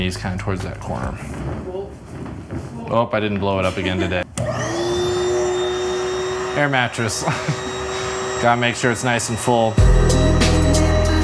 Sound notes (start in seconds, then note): 4.3 bed blowing up; 7.0 upbeat music